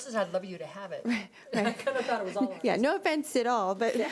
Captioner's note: laughing